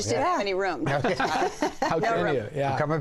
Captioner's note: laughter